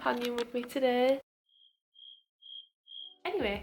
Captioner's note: cricket sounds